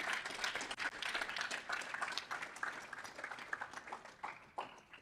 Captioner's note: audience applauding